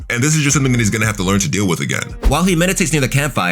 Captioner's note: air whooshing